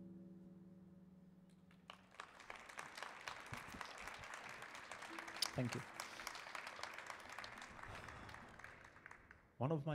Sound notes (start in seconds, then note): 1.8 audience applauding